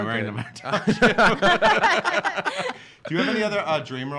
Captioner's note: laughing